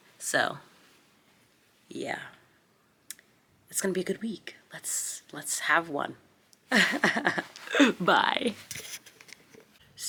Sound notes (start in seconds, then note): 6.8 laughs